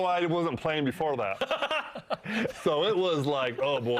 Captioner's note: laughing